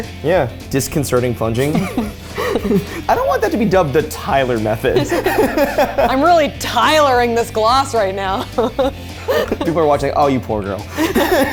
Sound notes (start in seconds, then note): 1.5 both laugh; 4.8 laughs